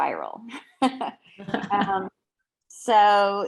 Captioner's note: laughing